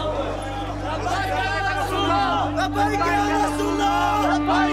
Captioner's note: arab spoken audio